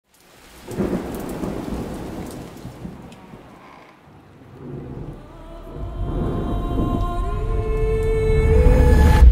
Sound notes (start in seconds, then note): 0.6 thunder; 6.2 dramatic music